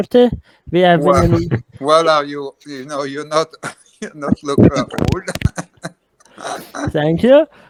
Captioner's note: laughing